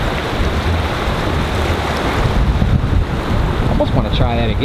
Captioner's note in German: Wasser sprudelt durch Felsen